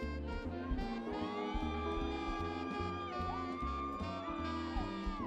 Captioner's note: people cheering